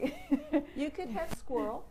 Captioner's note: laughs